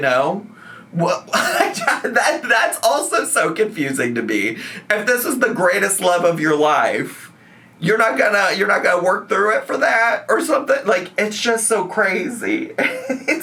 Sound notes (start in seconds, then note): 1.2 laughing; 12.8 laughs